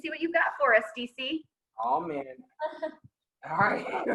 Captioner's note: laughing